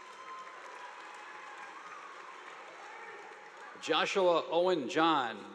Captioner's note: audience applauding